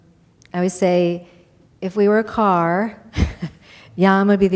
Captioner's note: chuckles